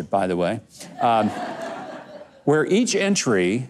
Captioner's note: audience laughs